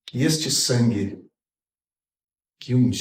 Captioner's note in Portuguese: none